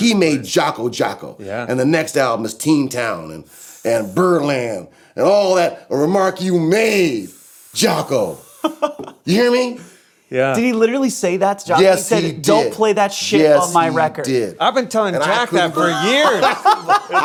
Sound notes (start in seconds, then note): 8.4 laughing